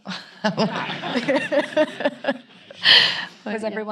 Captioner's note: all laughing; audience laughing